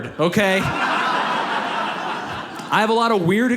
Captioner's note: audience laughs